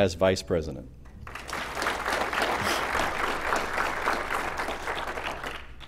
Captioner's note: applause